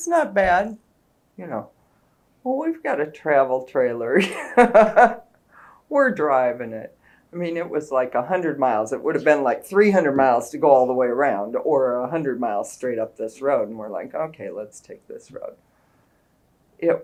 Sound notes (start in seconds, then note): 4.2 laughs